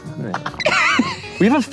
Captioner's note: laughing